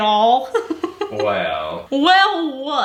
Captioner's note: laughing